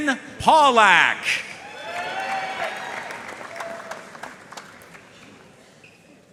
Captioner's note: audience cheering and applauding